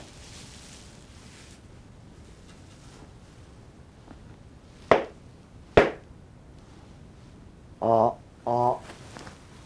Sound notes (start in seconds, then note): 4.7 claps